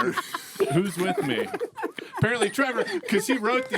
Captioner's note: laughing